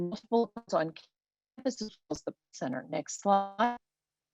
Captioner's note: web-call distortion